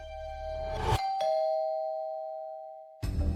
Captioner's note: door chimes